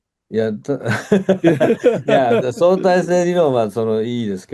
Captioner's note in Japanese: 笑い